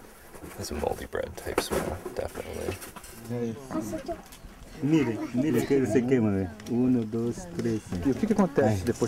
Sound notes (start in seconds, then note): 4.9 speaking foreign language